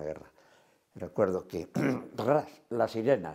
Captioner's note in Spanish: carraspea